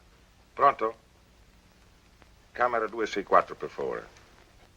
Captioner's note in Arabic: الصوت المنطوق بالإيطالية